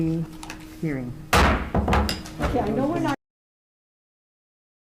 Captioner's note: gavel slams